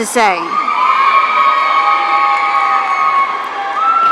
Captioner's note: audience cheering